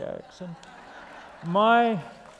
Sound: laughter

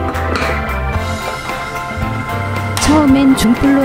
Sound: steam

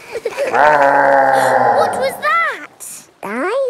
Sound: laughing; gasps; growling

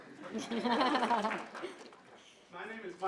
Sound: audience laughing

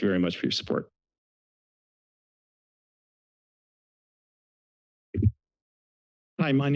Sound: silence

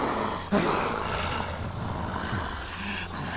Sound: all growling; growls

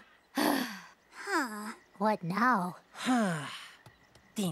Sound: sighs; sighs

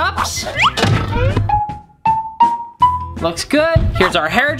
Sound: pinging

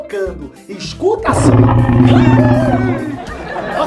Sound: egg growling and shaking

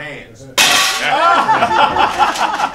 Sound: slams; laughter

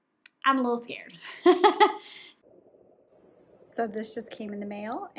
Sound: laughs

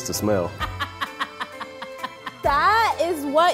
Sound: laughing

